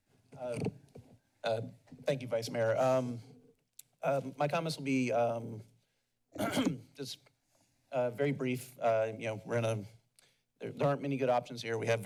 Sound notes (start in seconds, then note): 6.3 clears throat